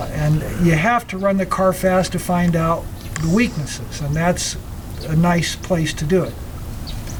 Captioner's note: engine Sound